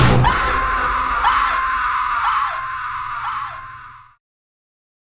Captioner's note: screams echoing